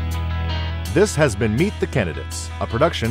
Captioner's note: voiceover